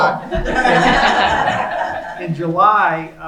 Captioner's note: laughing